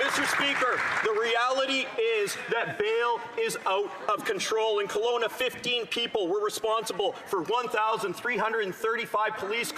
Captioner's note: some Applause